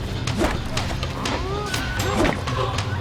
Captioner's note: thuds